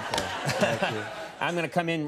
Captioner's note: audience laughing; Conan laughing